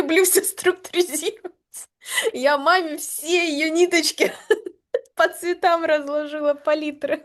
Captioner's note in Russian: смех